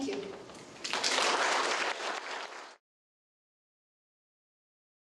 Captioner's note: audience applauding